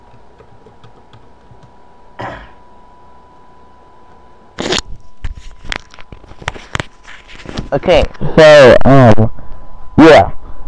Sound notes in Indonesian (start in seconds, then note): 4.6 kentut di mic